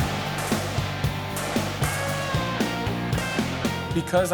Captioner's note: gun fire